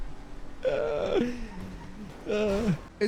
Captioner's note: groans; sighs